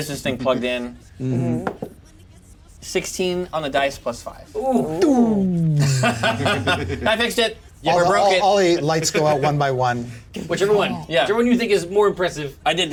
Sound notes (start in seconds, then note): 1.6 die thumps; 5.6 laughs